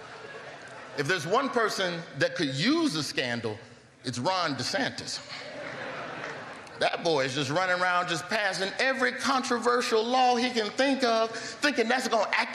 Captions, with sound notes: WELL DONE MEDIA. HAPPY TO BE HERE, VERY HAPPY TO BE HERE. [LAUGHTER] IF THERE IS ONE PERSON THAT